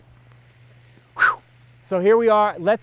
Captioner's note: sighs